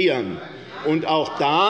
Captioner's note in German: Zurufe von der SPD: Nein!